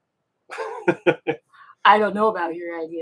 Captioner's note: laughing